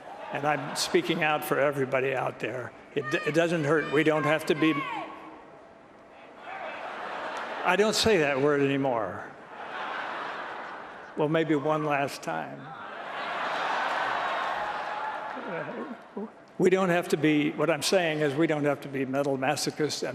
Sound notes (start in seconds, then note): 6.8 laughter; 12.9 laughter